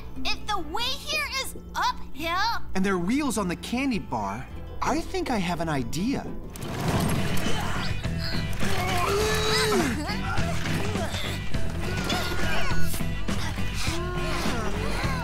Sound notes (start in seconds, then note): 6.3 wheels grinding; 7.4 grunting